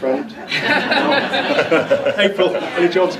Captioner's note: audience laughs